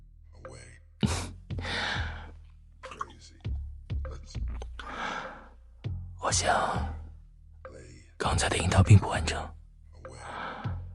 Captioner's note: chuckles and kisses wetly